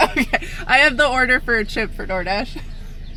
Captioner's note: laughing